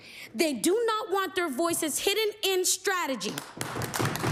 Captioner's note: applause